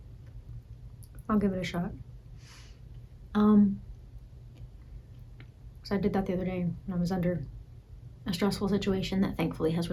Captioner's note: breathes